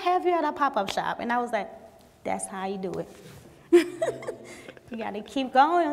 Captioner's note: laughs